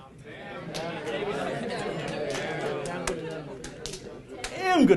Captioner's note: hands clapping